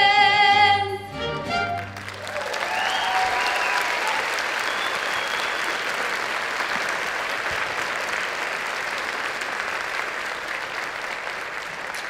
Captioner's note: applause